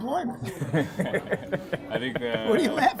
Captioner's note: laughter